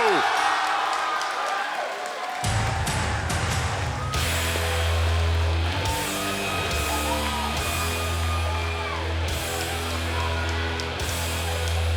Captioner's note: cheers & applause